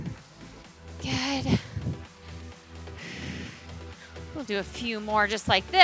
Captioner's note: exhales